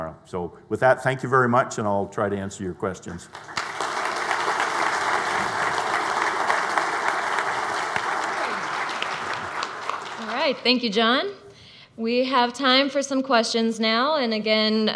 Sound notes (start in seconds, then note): 3.1 audience applauds